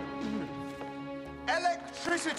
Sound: laughing; clears throat

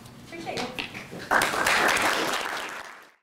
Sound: applause

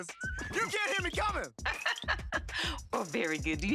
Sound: laughing

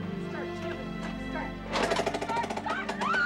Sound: engine starting

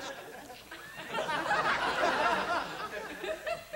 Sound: laughter

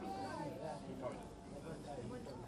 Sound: confused chattering

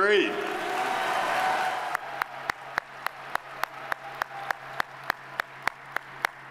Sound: audience cheering; audience applauding

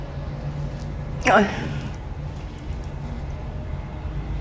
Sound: gasping

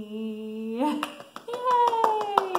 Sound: clapping

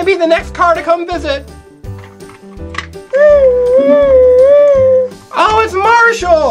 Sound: siren sounds

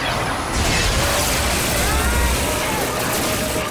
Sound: screaming

